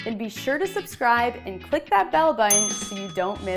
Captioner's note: bell rings